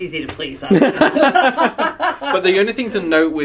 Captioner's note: laughing